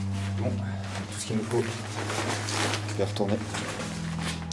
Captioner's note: ominous music continues; speaks French